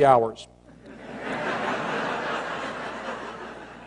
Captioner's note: laughter